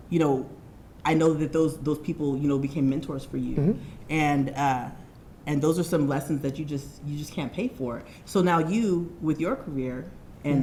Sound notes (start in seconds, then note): none